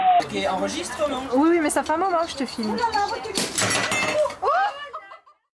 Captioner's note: speaking foreign language